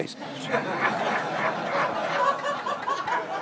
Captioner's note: all laughing